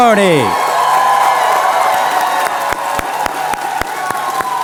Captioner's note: cheers and applause